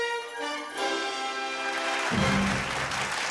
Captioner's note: audience applauding